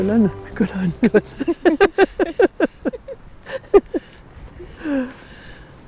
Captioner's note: laughter